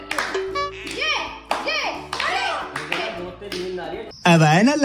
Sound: applause

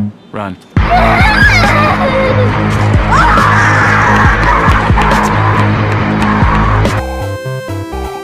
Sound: screams and yells

